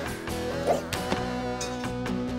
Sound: whoosh!

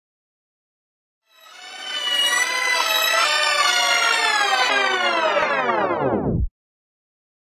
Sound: sound of tape rewind

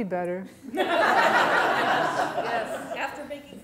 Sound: audience laughter

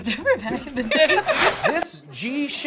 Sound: both laugh

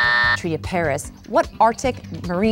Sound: buzzing

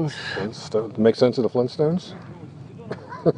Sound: laughing

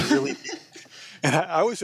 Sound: laughs

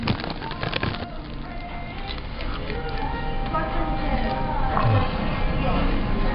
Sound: urgghhhhh

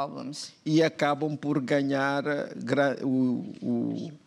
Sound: speaking portuguese

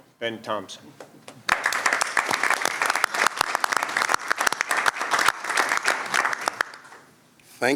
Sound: applause

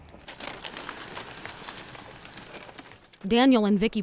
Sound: paper crinkling

